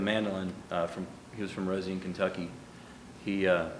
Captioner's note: none